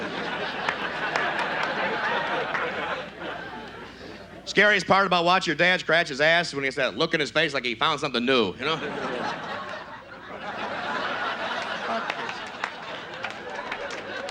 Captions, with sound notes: (audience laughs) Scariest part about watchin' your dad scratch his ass is when he has that look in his face like he found something new. (audience laughs)